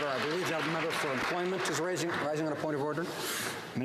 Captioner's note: some Applause